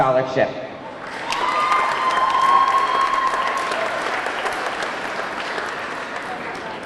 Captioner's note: audience clapping; audience cheering